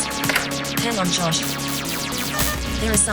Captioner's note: beeping